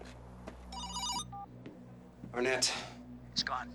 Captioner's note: phone rings